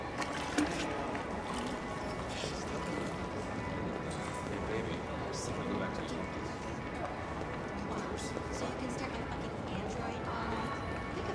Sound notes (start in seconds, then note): none